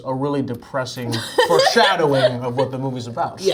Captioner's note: Zendaya laughs